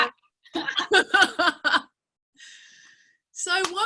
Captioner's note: laughing